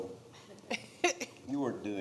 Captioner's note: laughs